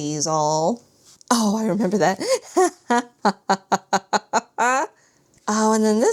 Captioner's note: laughs